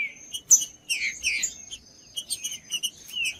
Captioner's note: trinca ferro cantando